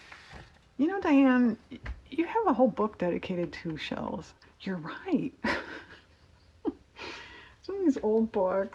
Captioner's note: laughs